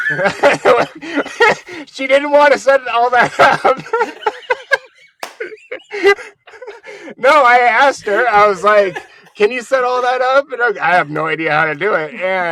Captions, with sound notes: (laughing) She didn't wanna send it all back up. (laughing) No, I asked her, I was like, can you set all that up? I have no idea how to do it.